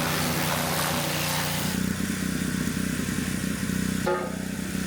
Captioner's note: engine rumbling continues